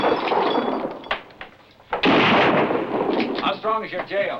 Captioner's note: glass shatters; gunshot; gunshots